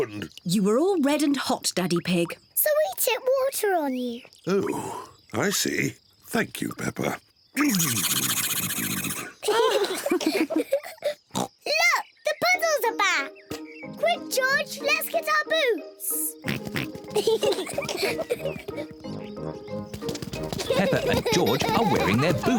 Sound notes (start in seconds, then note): 5.1 spluttering; 7.2 all laugh; 11.3 oinks; 14.9 both giggle excitedly; 20.4 both giggle